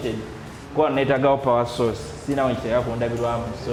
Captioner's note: foreign language